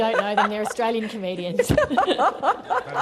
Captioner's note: laughter